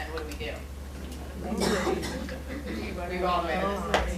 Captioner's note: people chattering